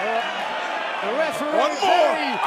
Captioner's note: cheers and applause